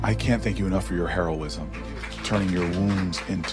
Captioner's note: attendees clapping